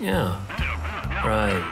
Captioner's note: Huck mumbling agreement on phone